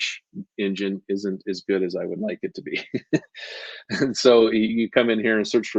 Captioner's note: laughs